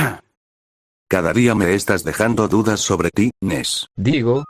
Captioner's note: coughs discreetly